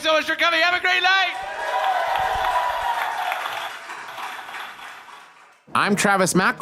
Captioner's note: applause, cheering